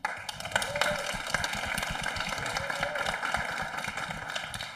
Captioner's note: audience applauding